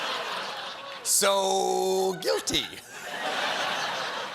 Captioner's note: laughter